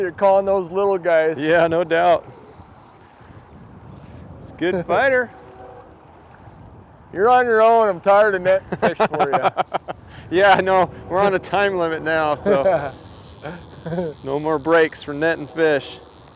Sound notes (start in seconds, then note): 8.5 laughing